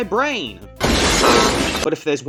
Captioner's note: kaboom